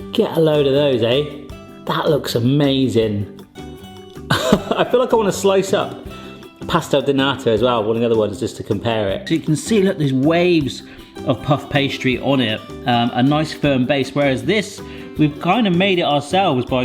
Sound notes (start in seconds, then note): 4.3 laughs